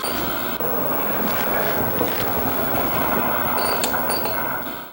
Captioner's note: tree cutting sounds